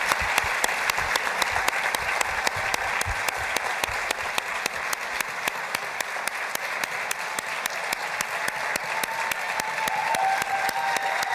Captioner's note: applause